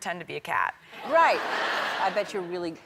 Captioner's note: crowd laughing